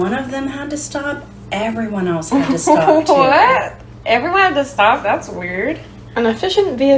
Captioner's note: laughing